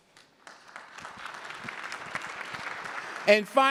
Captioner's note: applause